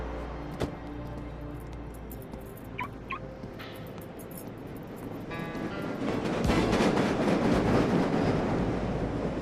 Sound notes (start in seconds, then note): 2.8 car beeping; 5.8 slow paced music